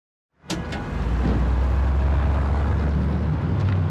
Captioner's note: street noise